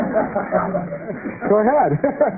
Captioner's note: laughter